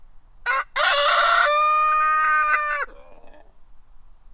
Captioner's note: cockerel crowing